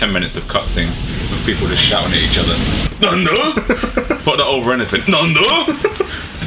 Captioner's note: loud fake japanese word